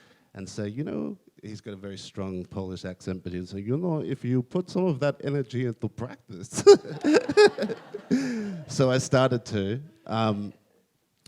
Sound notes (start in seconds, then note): 6.6 laughs